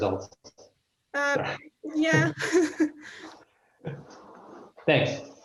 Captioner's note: laughs